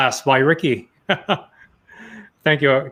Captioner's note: laughs